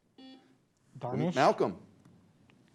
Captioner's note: beep